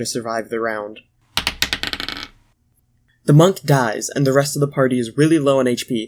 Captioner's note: die Rolling Noise